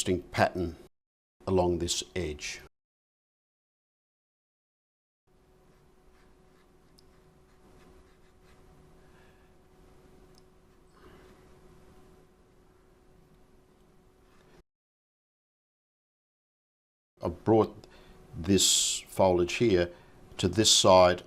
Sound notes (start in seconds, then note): 3.6 silence